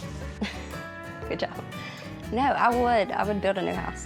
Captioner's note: laughing